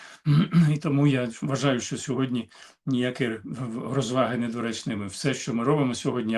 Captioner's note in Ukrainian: прочищення горла